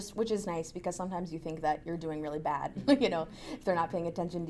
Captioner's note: laughs